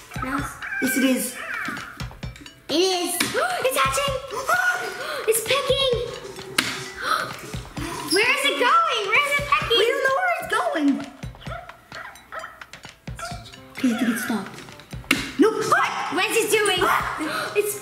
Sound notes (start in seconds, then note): 11.2 Hatchimal chirps